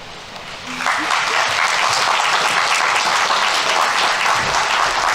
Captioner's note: audience applauding